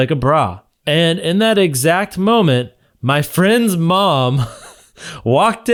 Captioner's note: chuckles